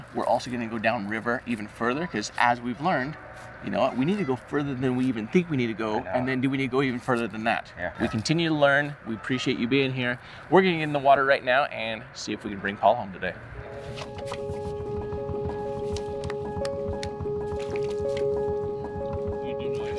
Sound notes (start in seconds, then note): 13.6 upbeat music; 14.6 boat engine revving; 17.6 water bubbling